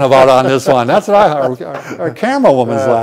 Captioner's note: laughs